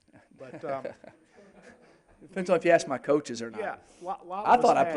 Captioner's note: laughing